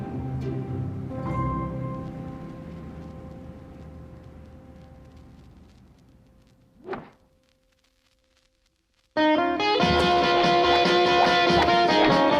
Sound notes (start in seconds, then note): 6.7 whooshing; 9.4 rock music